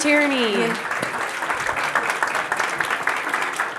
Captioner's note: crowd applauds